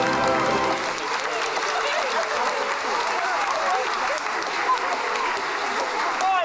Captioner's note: applause